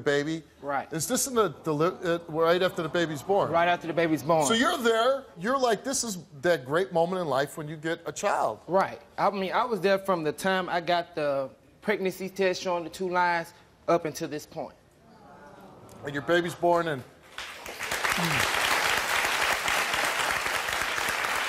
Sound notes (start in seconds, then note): 15.7 audience awws; 17.3 audience applause